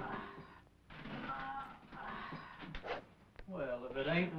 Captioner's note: John groaning